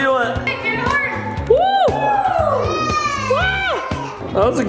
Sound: cheering

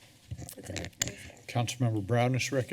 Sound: creaking sound

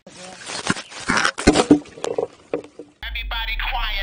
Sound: shovel thudding

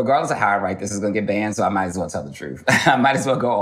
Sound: chuckles

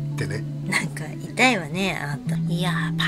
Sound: laughs

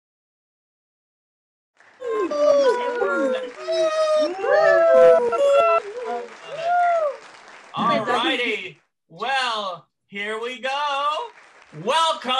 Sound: applause

